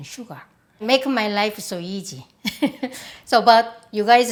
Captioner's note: laughs